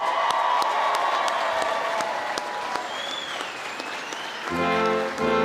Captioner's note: cheering and Applause